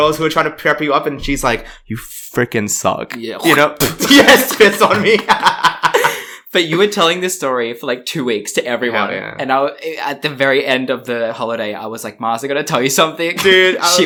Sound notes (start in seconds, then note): 3.1 spits; 4.0 laughs